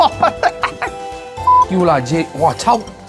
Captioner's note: beep